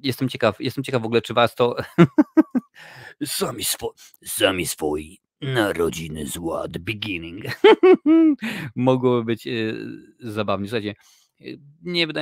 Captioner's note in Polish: śmiech